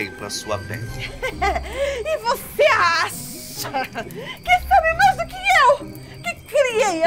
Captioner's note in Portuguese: risos